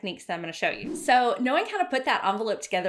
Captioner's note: swishing